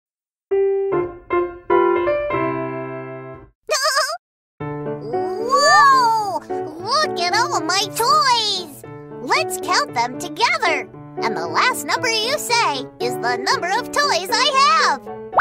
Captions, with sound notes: (soft upbeat music) (laughing) - Whoa, look at all my toys. Let's count them together. And the last number you say is the number of toys I have.